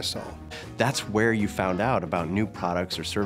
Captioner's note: voiceover